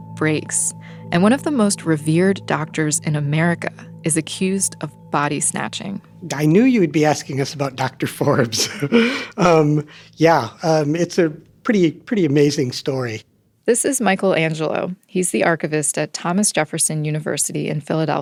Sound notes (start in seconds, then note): 8.2 laughs